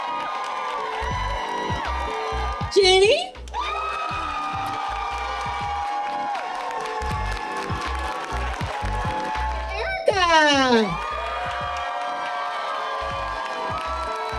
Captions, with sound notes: - Genie! (audience cheering) - Erika! (audience cheering)